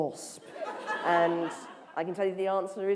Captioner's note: laughter